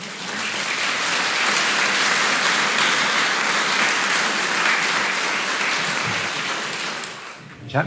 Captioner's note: applause